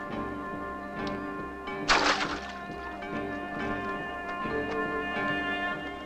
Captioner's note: water splashes